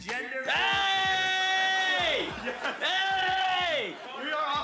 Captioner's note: laughing